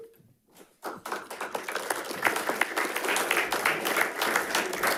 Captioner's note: audience applauding